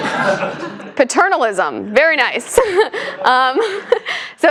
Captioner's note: laugh; laugh